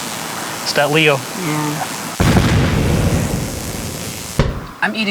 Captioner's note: explosions